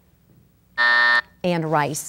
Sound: buzz

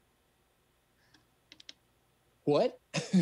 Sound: keypad clanking

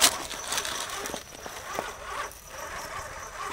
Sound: road noise

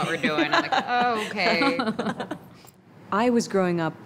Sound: laughing

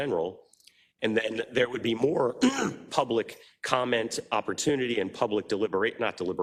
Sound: cough

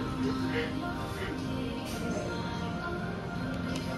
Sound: laughing

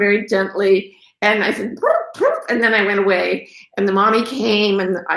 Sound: imitates turkey

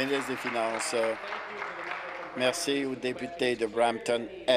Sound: applause

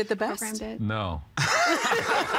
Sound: everyone laughing

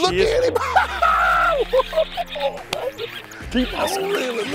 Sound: laughs

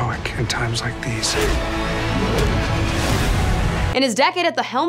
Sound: men grunting

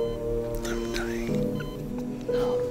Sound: whispering

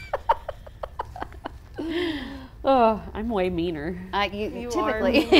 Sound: laughs

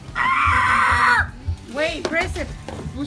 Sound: screeches

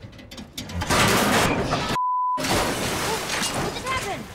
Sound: ladder clatters

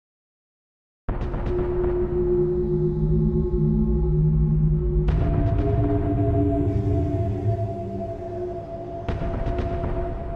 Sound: sound of dark planet

